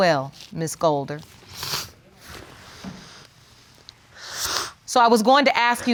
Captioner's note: sniffles